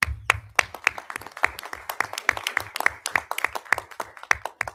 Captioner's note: audience applauding